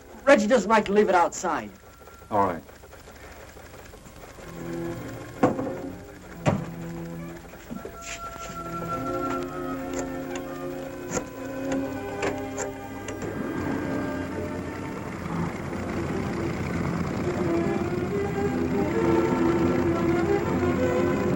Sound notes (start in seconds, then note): 4.8 tense music; 10.2 rotary phone dialing; 15.1 motor rumbling